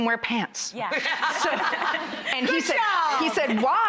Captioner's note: laughter